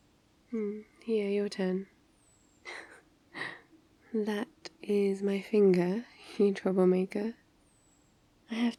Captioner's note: laughs